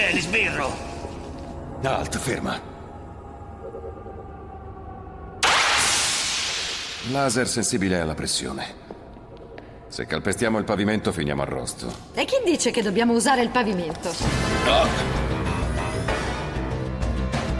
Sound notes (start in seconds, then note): 5.4 laser fires; 14.0 dramatic music